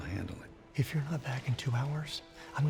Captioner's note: whispers